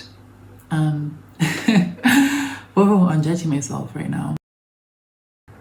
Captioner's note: chuckles